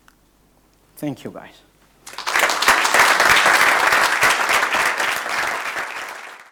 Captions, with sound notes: Thank you guys. (audience applauding)